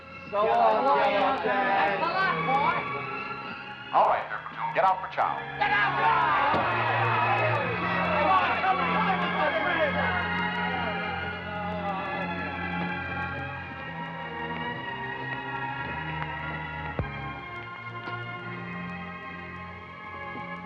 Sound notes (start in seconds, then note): 3.9 voice On Loudspeaker; 5.5 men yelling; 9.8 dramatic orchestra music